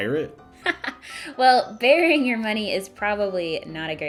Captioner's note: laughing